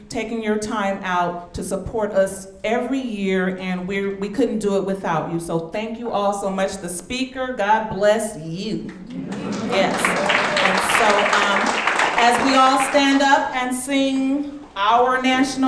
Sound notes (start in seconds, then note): 9.0 audience clapping